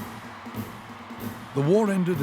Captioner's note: crowd cheering